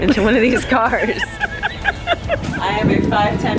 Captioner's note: laughing